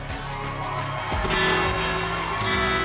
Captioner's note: cheers and applause